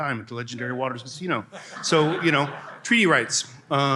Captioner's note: laughter